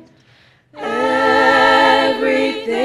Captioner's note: none